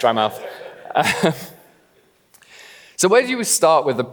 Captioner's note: laughs